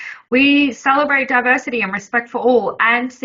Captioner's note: none